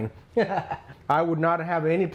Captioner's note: laughs